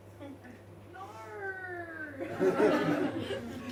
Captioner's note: audience member says 'No!" and audience laughs